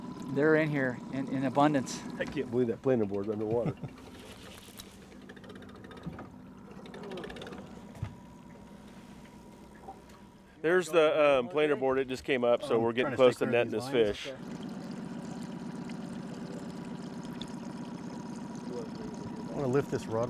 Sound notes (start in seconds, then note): 3.2 chuckling; 5.8 creaking; 15.8 trolling motor humming